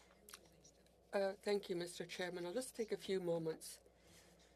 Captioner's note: speaking French